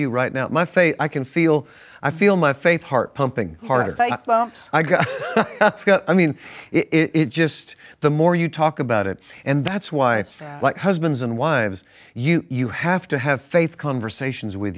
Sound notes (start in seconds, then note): 5.7 laughs